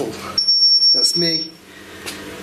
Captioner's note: machine beeping